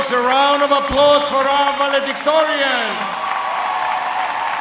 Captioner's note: applause